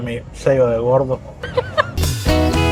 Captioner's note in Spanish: laughs